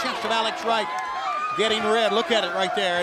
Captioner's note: crowd chatter